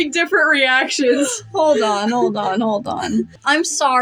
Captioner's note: chuckle